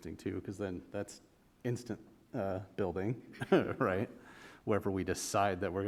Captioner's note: chuckle